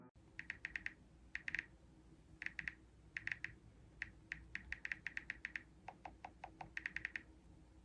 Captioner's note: text clicking